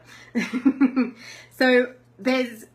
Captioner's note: laughs